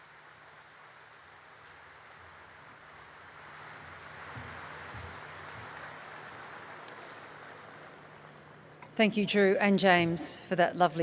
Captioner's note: applause